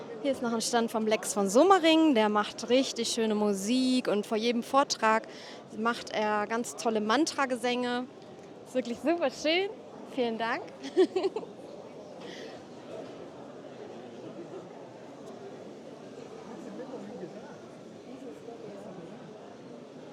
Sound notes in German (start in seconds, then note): 13.4 gelächter